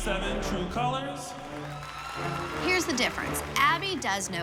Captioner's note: applause and cheering